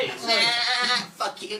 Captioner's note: sheep baas